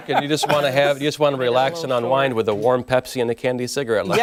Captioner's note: laughter